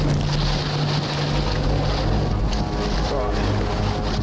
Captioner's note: water pouring down